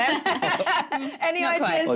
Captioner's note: laughter